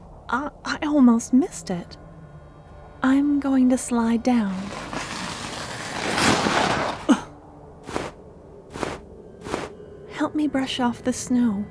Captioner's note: slide noise